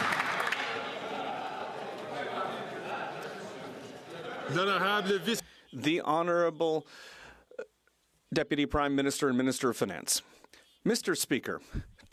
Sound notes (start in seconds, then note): 3.2 some Applause